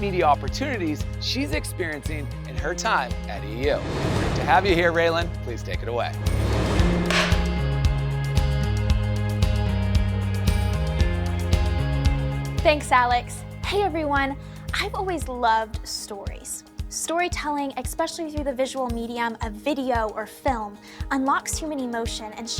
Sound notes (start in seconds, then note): 6.2 air whooshing; 7.3 upbeat music